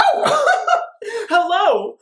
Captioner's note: laughs